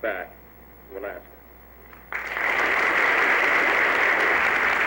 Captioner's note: applause